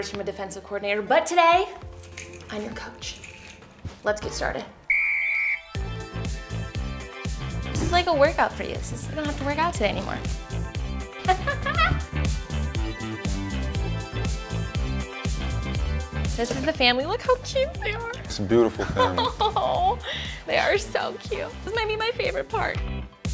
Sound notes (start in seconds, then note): 4.8 whistle blows; 11.2 laughs; 12.6 upbeat music